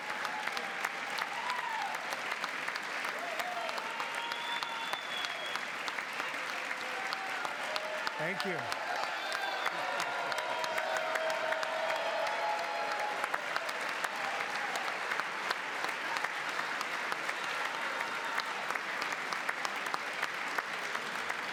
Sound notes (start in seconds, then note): 13.5 cheering; 17.7 applause